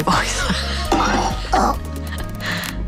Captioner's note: grunting